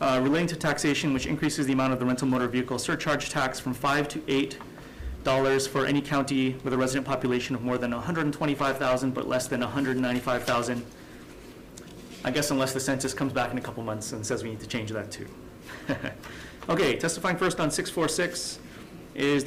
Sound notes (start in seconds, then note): 15.7 chuckles